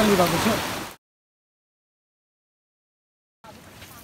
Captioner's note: waterfall